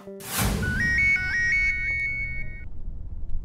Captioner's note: phone ringing